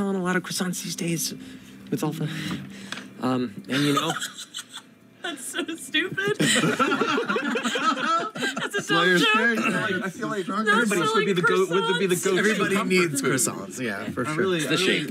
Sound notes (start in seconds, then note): 6.0 laughs; 6.0 laughter